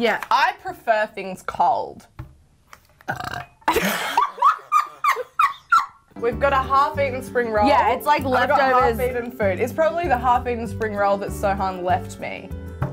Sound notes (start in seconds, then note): 3.0 burps; 3.6 both laughing